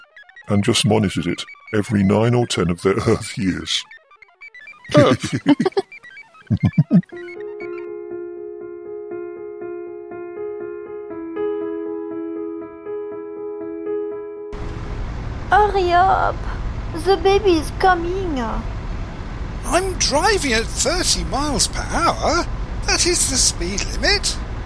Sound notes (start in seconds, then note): 4.9 both laugh